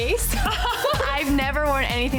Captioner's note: laughing